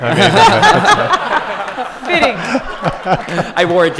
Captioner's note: laughter